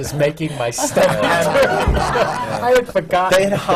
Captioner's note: laughter